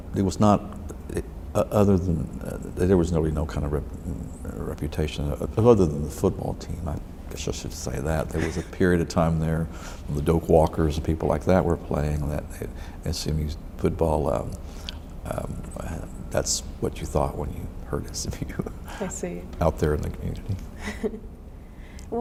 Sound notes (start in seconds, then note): 8.2 laughs; 18.6 laughs; 20.8 laughs